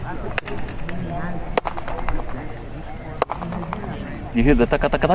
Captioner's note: claps, followed by quick back-and-forth echoes